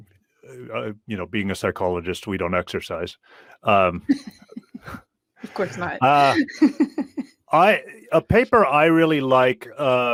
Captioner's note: laughing